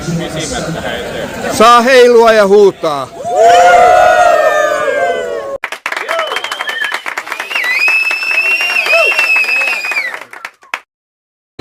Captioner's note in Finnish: Aplodeja